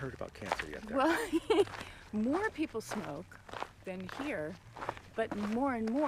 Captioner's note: laughs